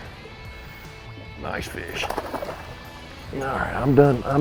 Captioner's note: water splashing